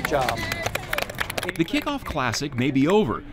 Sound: group applauds

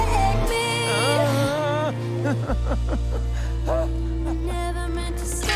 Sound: whimpering

